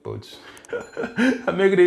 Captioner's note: laughs